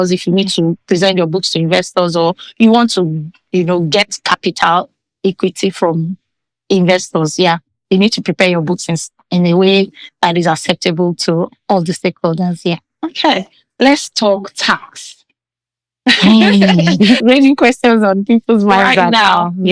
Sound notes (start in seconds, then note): 16.1 laughing